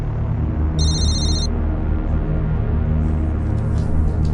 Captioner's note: phone ringing